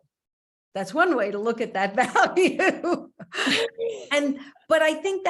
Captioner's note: laughs